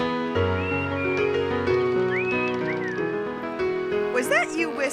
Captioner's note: Ollie silbando